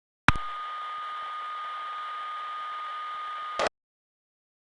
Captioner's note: white noise